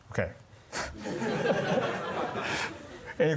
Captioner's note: laughter